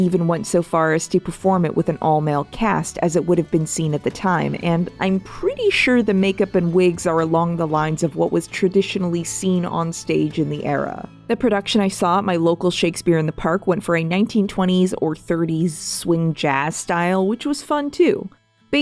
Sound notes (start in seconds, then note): none